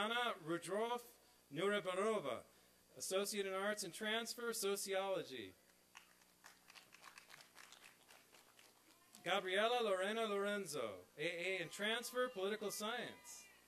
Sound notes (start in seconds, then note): 5.9 applause and cheering; 13.4 applause and cheering